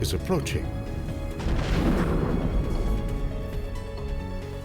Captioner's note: exploding